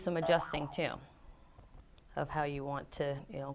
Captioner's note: boing